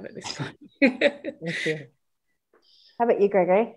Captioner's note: laughs